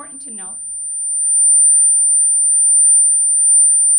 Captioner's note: mic buzzing